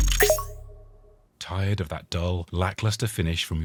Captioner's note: beeping